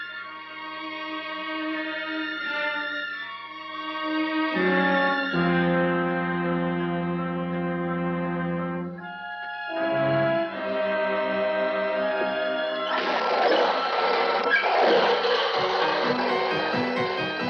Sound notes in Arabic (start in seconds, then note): 12.0 صراخ العربات